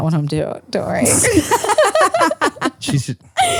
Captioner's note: laugh